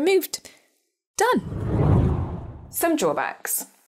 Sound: screen whooshes

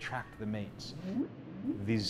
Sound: whale song

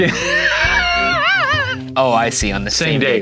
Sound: laughing

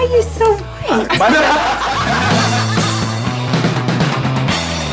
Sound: laughter

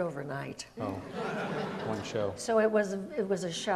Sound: audience laughs

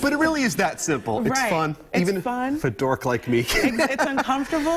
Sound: laughter

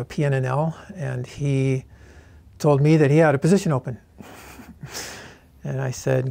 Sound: laughs

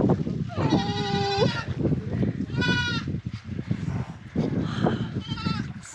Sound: goat bleats; bleating continues

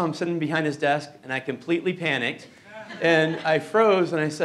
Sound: chuckling

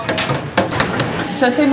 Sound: cracking egg

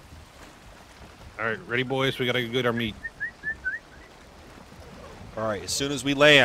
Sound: whistling

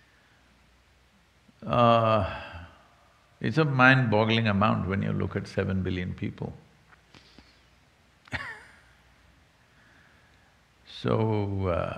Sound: laughs

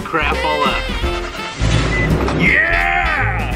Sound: truck fires up

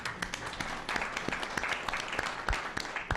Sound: applause

